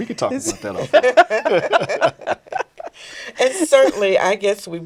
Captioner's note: all laughing